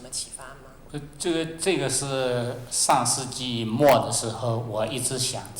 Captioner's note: Mandarin